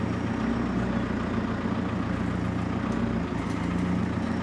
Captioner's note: engine rumbling